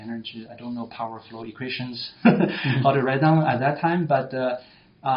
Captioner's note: laughs